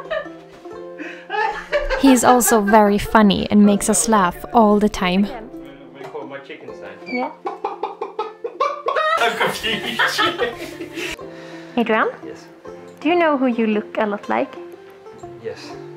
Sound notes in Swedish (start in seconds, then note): 1.1 Skratt; 9.4 Skratt